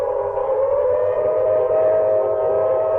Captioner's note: none